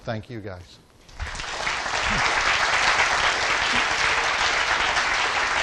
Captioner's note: audience applauding